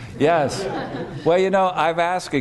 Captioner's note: laughter